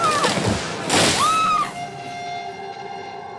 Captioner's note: screams